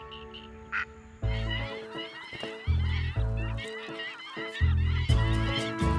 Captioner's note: birds calling